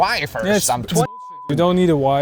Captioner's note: beep